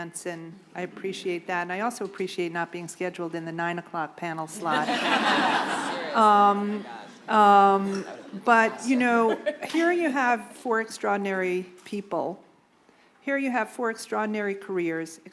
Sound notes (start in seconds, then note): 4.6 laughter